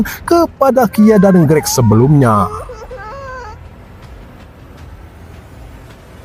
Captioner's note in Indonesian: menangis